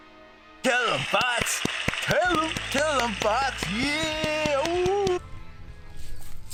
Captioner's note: group claps